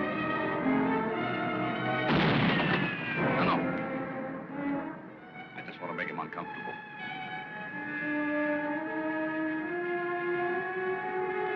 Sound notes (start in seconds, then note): 2.0 gun bangs; 8.4 tense music